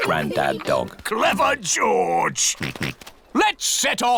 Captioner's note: snorts